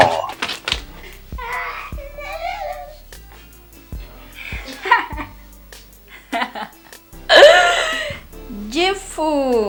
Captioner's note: both laughing